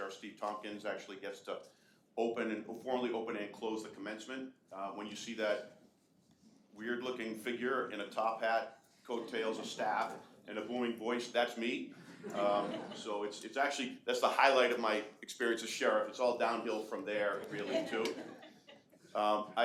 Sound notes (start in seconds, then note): 12.0 audience laughing; 17.4 audience laughing